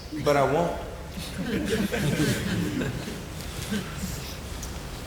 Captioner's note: audience laughing